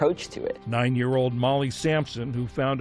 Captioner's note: voice-over